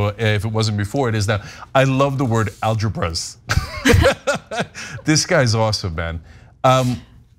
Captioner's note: laugh